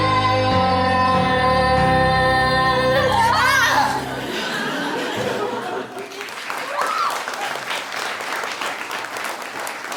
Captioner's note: both screaming; applause